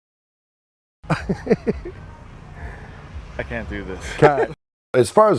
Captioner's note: laughing softly